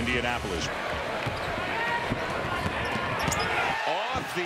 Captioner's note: crowd cheering